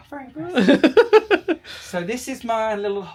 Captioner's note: laughs